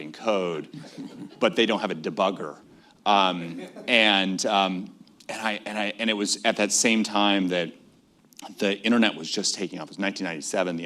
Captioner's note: laughter